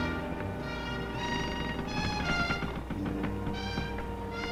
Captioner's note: rail creaking